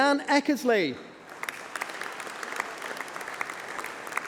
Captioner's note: applause